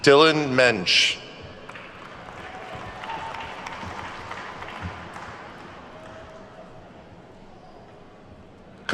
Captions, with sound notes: Dylan Muench. (attendees clapping)